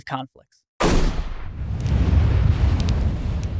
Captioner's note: smash